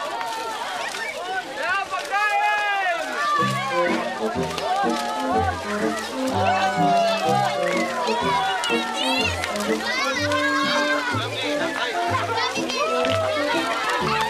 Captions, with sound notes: There, food. -[goofy music playing] -[all cheering] There’s so many candy! [crowd cheering]